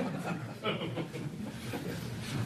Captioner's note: laughter